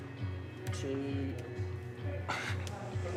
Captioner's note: grunts softly